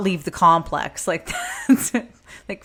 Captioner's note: laughs